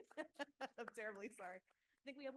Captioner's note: laughs